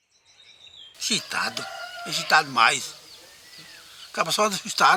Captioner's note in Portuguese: Canto de pássaros